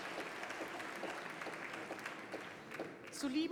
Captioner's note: applause